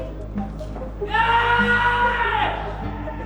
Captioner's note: cheering